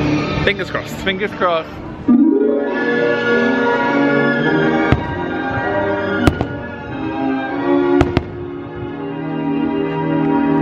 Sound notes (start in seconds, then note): 2.0 cheerful gentle music; 2.6 fireworks popping